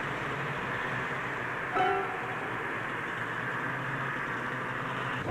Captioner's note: snowmobiles driving